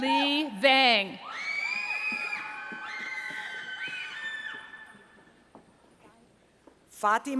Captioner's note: cheering